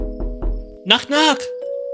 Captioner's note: knocks at the door